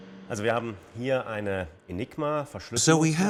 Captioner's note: speaks foreign language